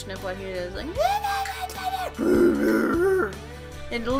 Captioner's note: terrible mocking scream because can't scream